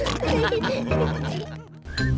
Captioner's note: all laugh